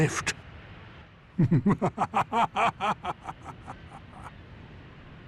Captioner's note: laughing